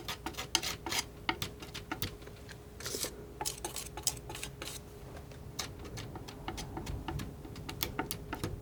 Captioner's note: tapping